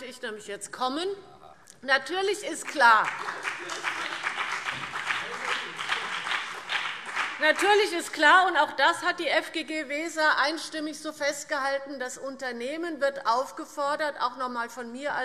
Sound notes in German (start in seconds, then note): 2.6 Beifall BÜNDNIS 90/DIE GRÜNEN